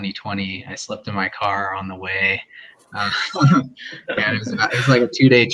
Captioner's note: laughs